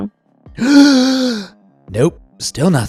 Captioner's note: bigger gasp